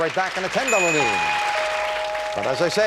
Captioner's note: bell